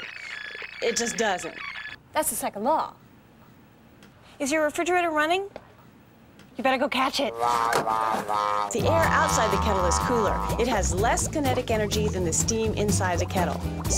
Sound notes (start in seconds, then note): 3.6 on phone